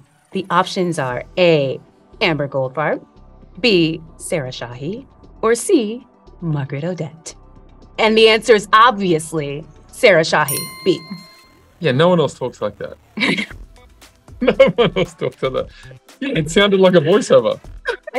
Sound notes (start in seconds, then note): 10.4 bell dinging; 14.4 Adam laughing